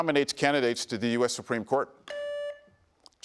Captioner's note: buzzer beeps